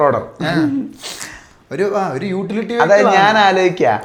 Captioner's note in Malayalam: തൊണ്ട ശരിയാക്കുന്നു